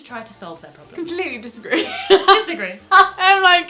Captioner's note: laughs